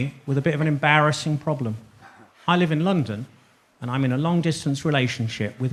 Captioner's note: none